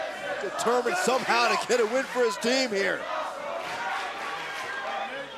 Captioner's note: crowd cheering